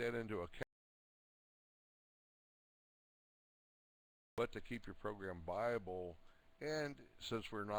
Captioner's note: audio drops